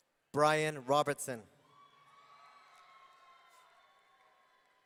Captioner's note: audience cheering